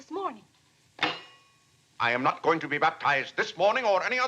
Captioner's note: cutlery clanks